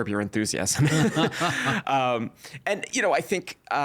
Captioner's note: laughing